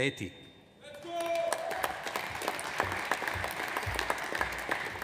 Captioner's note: audience applauds